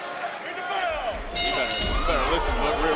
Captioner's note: bell dings